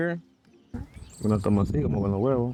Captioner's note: speaking in foreign language